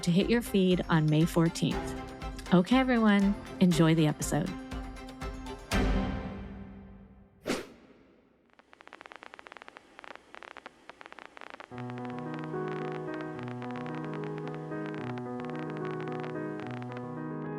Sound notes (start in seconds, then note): 5.9 bright music; 7.4 swiping sound; 11.7 gentle music